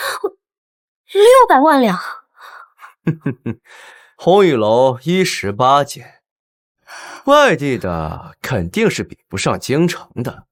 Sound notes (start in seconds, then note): 2.8 chuckles